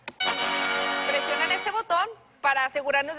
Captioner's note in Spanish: Suena una alarma